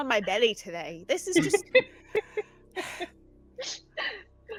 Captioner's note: sighs